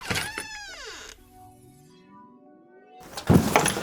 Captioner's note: door creaks